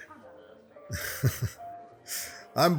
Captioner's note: laughs